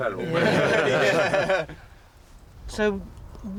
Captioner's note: all chuckle